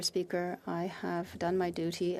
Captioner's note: speaking French